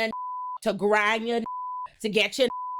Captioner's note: beep